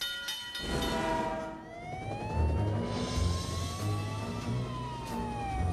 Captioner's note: sirens